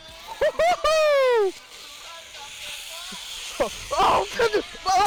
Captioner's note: shouting